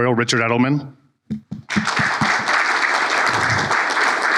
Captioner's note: applause